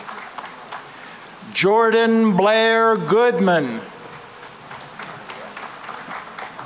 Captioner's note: applause